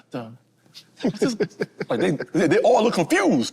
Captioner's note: group chuckles